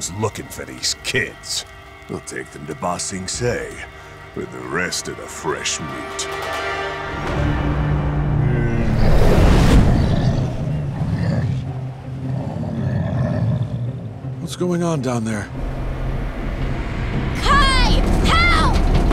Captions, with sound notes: for these kids. We'll take them to Ba Sing Se with rest of the fresh meat. [grunting] What's going on down there? Kai! Help!